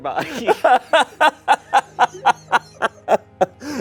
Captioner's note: laughs